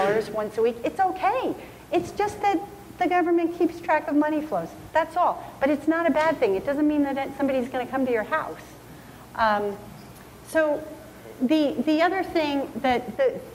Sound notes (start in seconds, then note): none